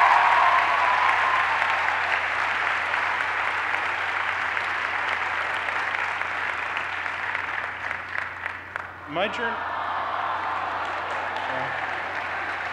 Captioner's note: cheers and applause